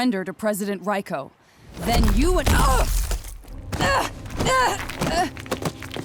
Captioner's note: groaning